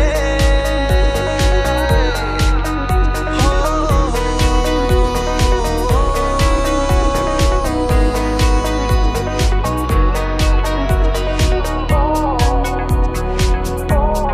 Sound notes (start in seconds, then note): 3.3 Humming